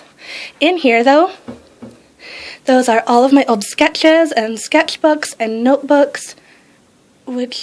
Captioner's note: tap tap